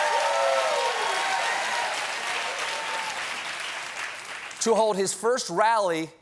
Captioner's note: cheering